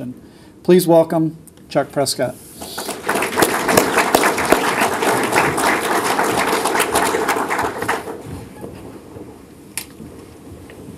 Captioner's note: applause